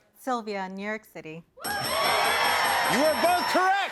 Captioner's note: dinging